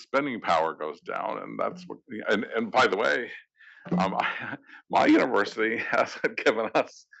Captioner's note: laugh